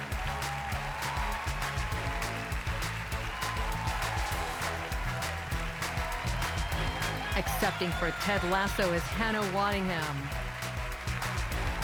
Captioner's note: cheers and applause